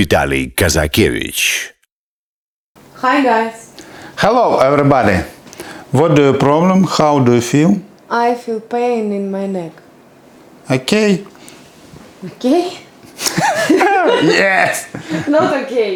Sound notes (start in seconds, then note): 13.2 laughing